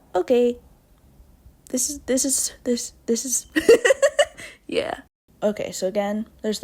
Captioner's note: laughs